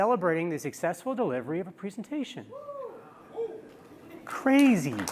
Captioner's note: cheers